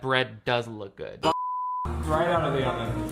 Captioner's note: beep